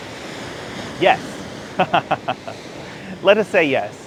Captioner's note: laughs loudly